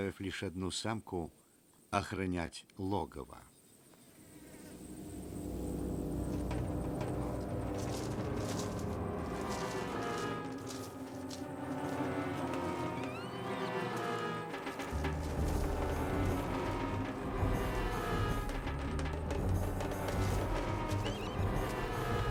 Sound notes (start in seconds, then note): 14.2 hyena squealing